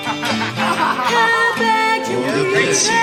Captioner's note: laughs